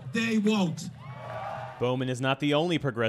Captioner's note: cheering and applause